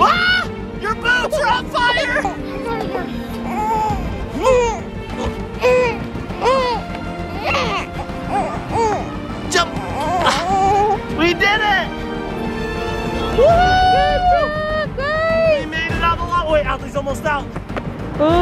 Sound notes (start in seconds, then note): 0.0 screams; 3.9 crying